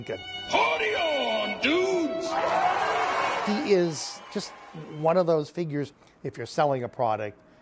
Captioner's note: cheering and applause